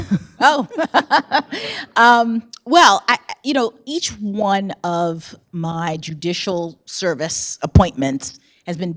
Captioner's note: laughs